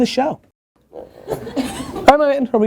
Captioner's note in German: Lachen